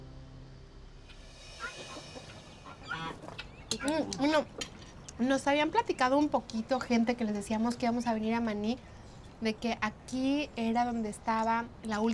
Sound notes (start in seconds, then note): 1.6 chickens clucking; 5.1 speaking Spanish